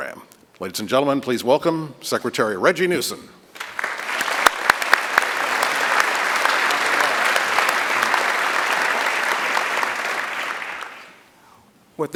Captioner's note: applause